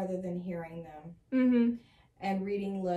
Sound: "mhming" agreement

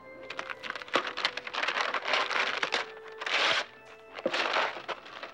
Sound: paper crinkling and ripping

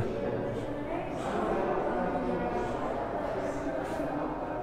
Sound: crowd noise

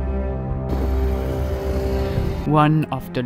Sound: engine revving

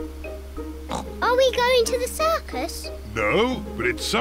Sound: oinks

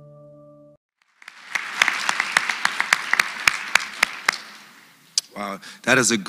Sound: applause

